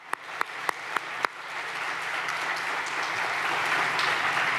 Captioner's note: audience applauding